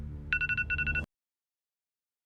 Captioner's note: alarm clock